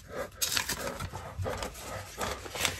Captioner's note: heavy breathing